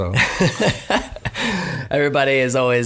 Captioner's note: laughing